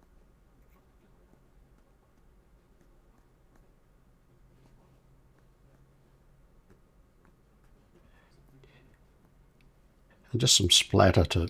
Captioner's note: silence